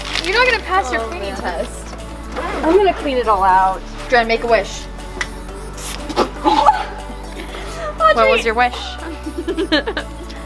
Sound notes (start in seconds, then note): 5.8 sprays perfume; 7.0 sputters; 8.8 giggles